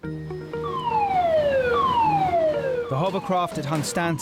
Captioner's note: siren whoops